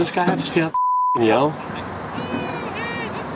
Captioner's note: beep